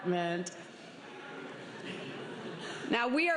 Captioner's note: laughter